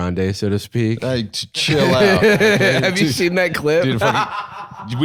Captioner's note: laughs